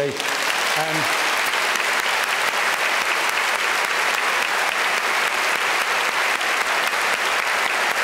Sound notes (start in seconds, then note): 0.0 applause